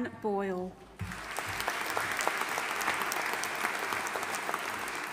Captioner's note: audience applauding